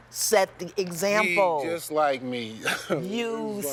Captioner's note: laughs